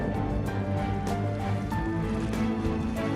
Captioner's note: liquid gurgling